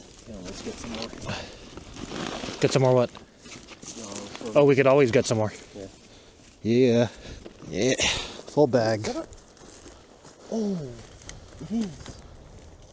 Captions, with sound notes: "We could get always some more" "Get some more what?" "We could al-" "Oh, we could always get some more" "Yeah" "Yeeeahh" *grunts* "Full bag" "Is that a-" "Oh! It is!"